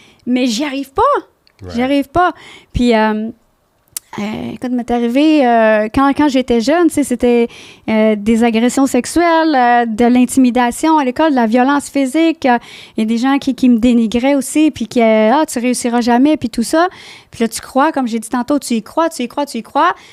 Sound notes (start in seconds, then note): 0.2 in french